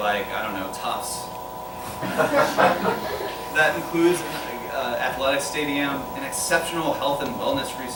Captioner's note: laughter